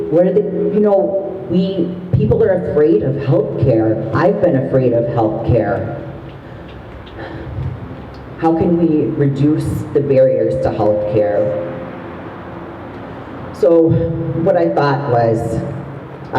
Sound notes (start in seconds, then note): none